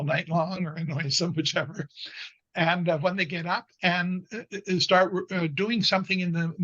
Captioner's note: chuckles